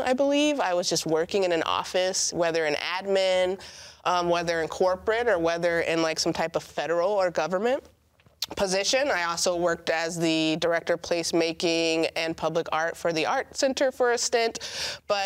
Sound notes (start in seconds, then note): none